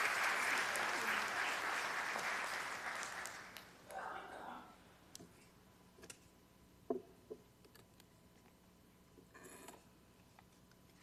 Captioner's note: applause